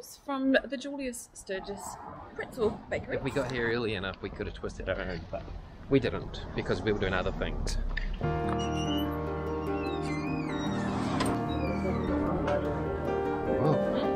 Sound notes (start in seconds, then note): 8.3 squeaky Door